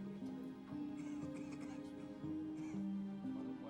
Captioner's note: coughing